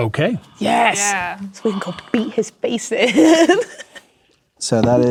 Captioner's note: laughing